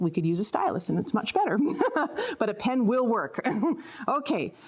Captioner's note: laughs